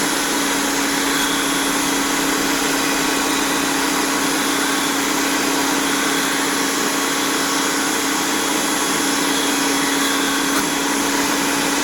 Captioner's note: grinding sound